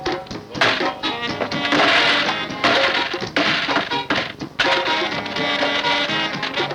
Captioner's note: jamaican music playing; domino pieces forcefully slammed downed on table; jamaican music playing